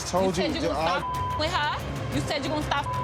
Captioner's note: beep